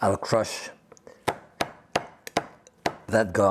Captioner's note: knife thumping